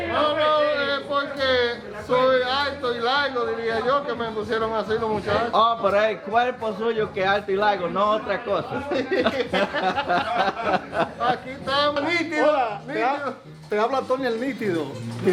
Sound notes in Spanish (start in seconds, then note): 8.7 risas